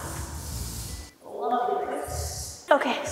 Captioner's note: pole squeaking